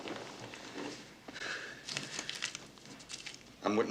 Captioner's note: breathes sharply